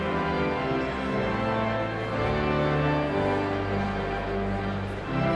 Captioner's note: exhilarating organ music continues; audience chattering continues